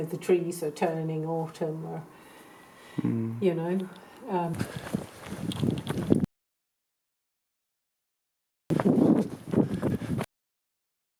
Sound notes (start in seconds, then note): 5.8 fast footsteps; 9.0 panting